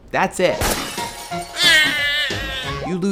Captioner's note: glass shatters; crying sound